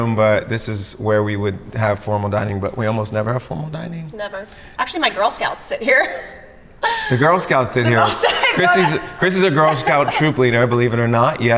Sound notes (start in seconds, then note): 6.9 laughs